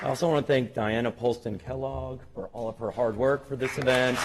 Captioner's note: applause